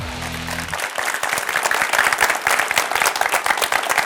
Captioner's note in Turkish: alkış